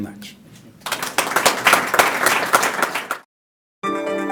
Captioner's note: clapping